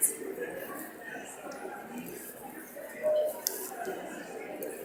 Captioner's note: audience mumbling